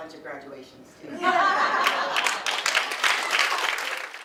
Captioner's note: audience: Laughter, applause